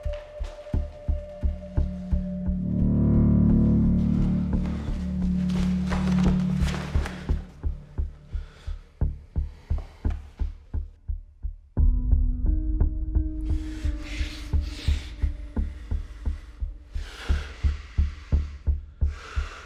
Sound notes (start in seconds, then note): 6.2 bag rustling; 12.0 haunting music; 14.5 man sighs